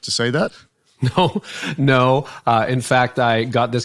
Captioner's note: laughing